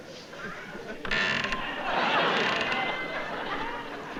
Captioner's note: creaking